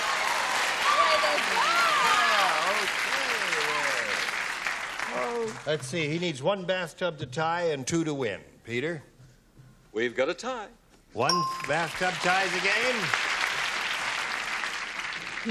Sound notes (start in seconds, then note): 0.0 applause; 11.2 ding; 11.6 applause